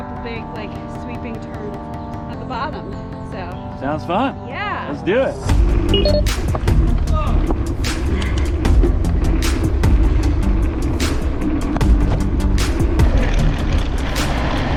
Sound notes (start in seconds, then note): 0.0 bouncy music begins; 5.9 beeping noise; 8.3 bike rumbling